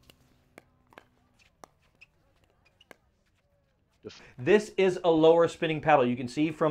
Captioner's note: ball bouncing